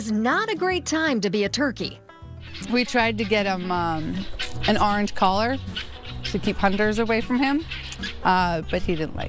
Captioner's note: gobbles